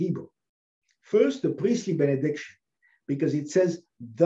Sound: Hebrew

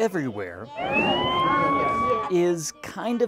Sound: siren

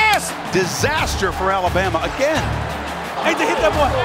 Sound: voiceover

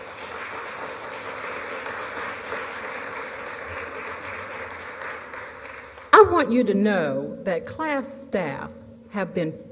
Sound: applause

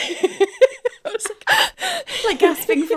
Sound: both laughing; gasps

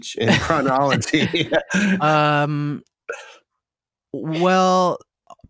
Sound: laughter

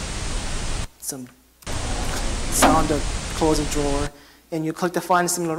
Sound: drawer closes

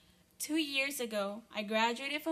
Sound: none

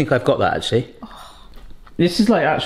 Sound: sighs

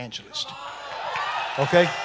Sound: congregation shouting

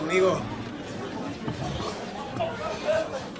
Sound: murmuring

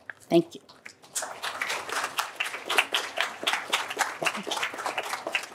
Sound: applause

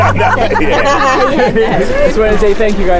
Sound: chatter

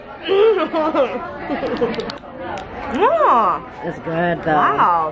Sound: moans and laughs

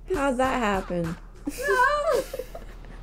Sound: laughter

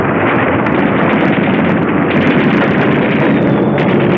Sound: guns firing

